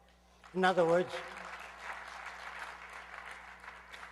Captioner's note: aplausos